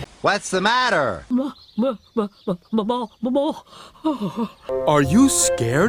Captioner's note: studders